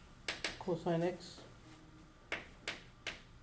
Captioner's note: voiceover